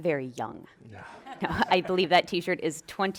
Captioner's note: people laughing